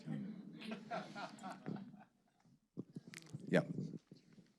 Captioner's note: audience laughing